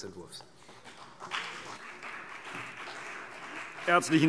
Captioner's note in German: Beifall CDU und BÜNDNIS 90/DIE GRÜNEN